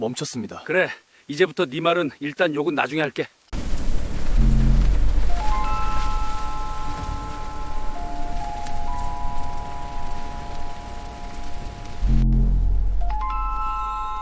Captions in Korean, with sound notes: 멈췄습니다. 그래, 이제부터네 말은 일단 욕은 나중에 할게. [종소리]